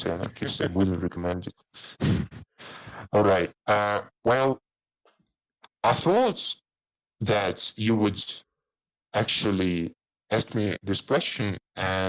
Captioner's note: chuckle